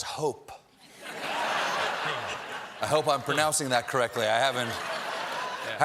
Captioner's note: laughter